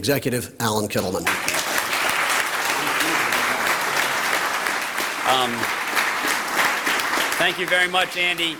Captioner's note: applause